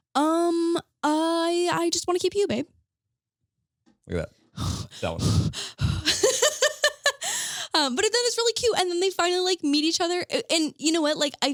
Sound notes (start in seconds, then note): 4.6 blowing air; 5.1 laughing